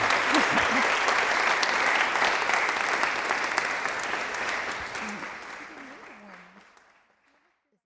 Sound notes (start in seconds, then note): 1.6 applause